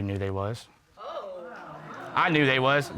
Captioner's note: audience exclaims